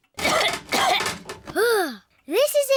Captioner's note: coughs